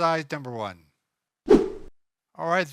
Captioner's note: whoosh